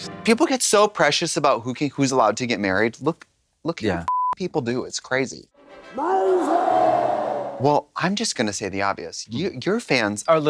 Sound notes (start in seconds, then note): 4.1 beep; 5.9 crowd cheering